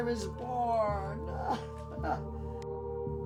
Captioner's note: laughs